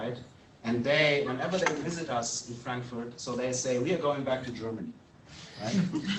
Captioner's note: laughter